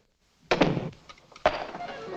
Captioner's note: door bangs shut; tense music